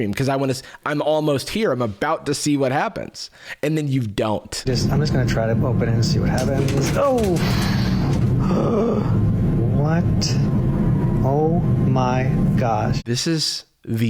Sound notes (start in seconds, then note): 8.3 gasps